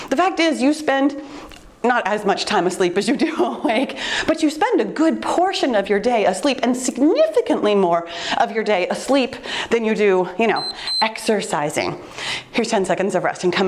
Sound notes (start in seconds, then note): 3.9 laughs; 10.5 timer beeps